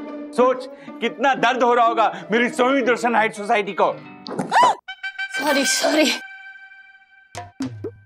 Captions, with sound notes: Think about the pain we are going through in this society. - [shouts] - Sorry...